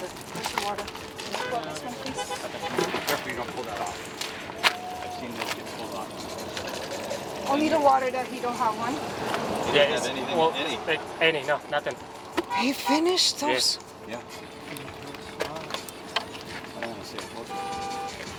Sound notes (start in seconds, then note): 5.7 water sploshing